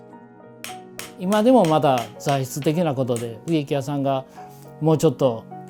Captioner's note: speaking foreign language